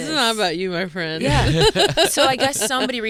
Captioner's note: Fortune and Tom laughing